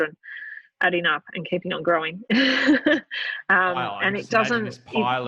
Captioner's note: laughing